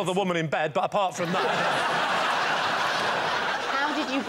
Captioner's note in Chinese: 笑声